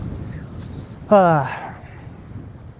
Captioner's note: sigh